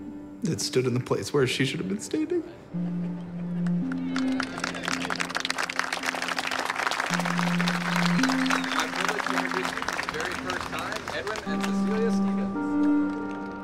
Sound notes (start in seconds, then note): 4.2 people clapping